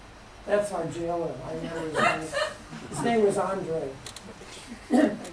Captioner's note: laugher